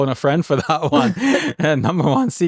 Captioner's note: both laughing